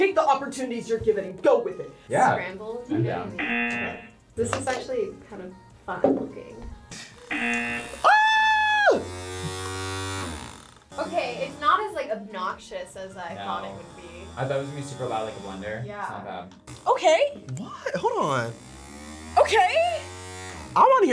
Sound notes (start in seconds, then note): 3.4 buzzer; 7.2 buzzer; 7.9 screams; 8.7 EggFecto buzzes; 18.1 EggFecto buzzes